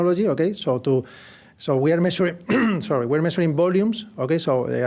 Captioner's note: cough